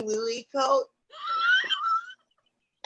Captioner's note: laughs